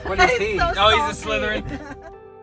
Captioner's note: laughs